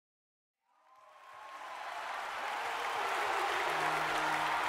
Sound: applause

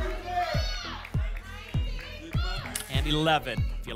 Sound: audience shouting numbers

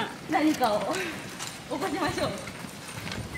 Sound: laughs

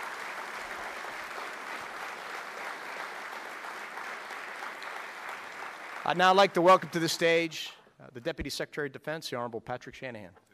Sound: applauding

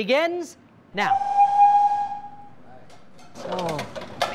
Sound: siren signaling

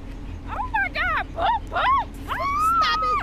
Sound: screams

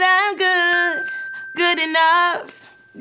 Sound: bell dings

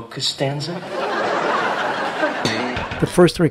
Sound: audience laughing

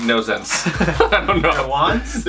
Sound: laughter

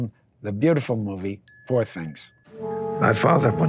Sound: bell dinging

